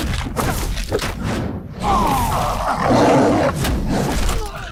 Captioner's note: jabs groaning sound